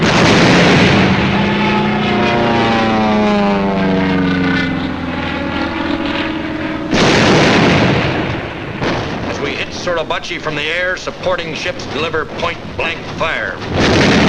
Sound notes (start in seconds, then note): 0.2 explosions booming; 2.6 planes roaring; 7.0 explosions booming